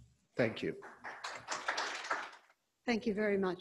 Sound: audience clapping

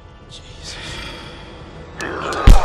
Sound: growl; smack

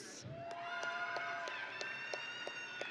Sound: audience and graduates cheering

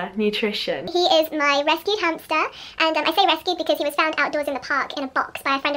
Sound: sped-up voice

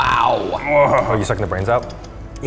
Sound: grunting

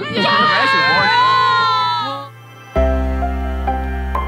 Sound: cheering

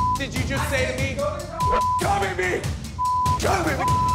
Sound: beep

